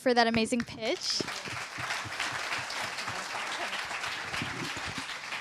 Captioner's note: applause